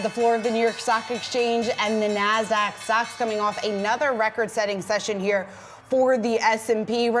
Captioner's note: bell ringing